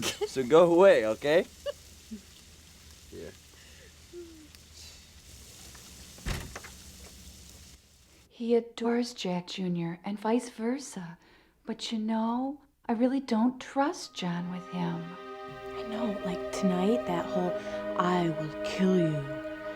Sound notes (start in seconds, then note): 0.0 Brooke giggles; 6.1 door thuds